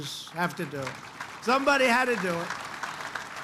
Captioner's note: applause